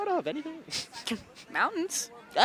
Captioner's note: chuckles